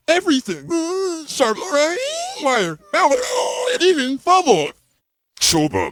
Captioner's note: Woody screaming nervously